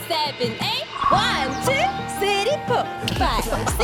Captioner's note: perfect synchronization sound effect